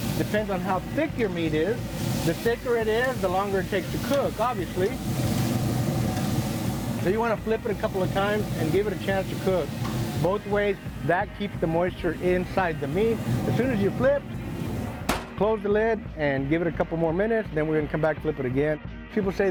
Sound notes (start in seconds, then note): 14.8 lid closing